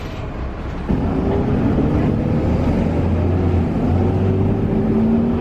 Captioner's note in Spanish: sonido del motor 'Mercedes Benz' del bus